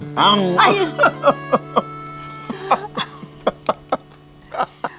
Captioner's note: both laughing